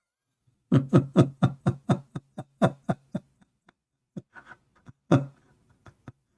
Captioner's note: Ketawa